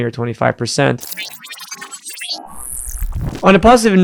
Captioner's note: machine whirring